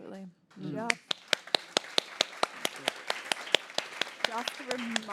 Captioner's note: applause